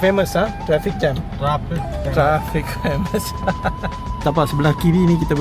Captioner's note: laugh